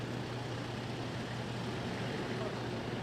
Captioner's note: traffic